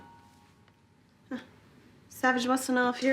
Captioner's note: cell phone chimes; chuckles